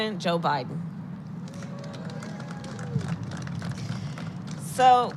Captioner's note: applause